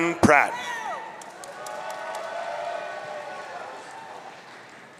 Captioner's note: audience cheering